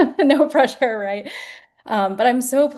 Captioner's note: laughter